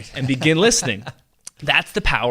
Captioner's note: laughing